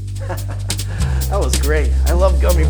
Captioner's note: laughs